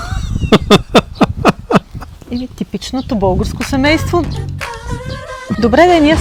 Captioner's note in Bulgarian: смях